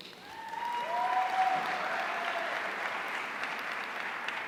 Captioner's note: audience cheering